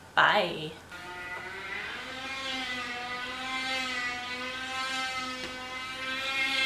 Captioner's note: really loud buzzing noise outside